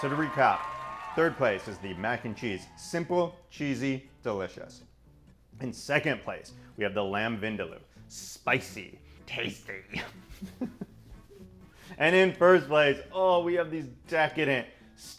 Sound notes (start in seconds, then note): 9.9 chuckling